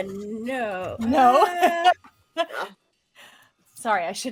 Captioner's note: laughing